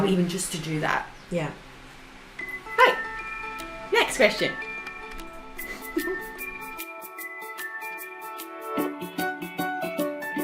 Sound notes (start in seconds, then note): 5.6 giggles; 7.0 happy music